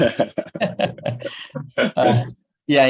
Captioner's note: laughs